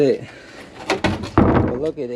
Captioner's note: bin thudding